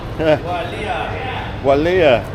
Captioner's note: speaking in foreign language